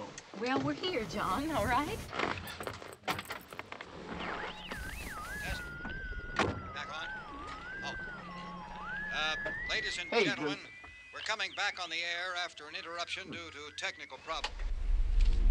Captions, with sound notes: Well, we're here, John, all right? (radio buzzing) Yes, back on. Oh, uh, ladies and gentlemen, we're coming back on the air after an interruption due to a technical problem.